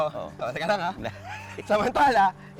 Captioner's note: laughs